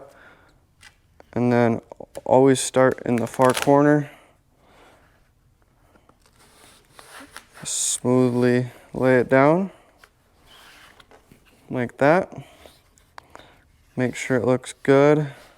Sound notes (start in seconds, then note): 2.9 material tearing; 6.2 material shuffling